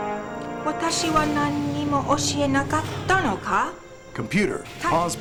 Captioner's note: Holodeck doors opening